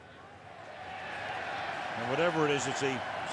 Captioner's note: cheering